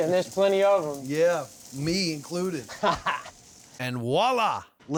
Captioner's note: laughing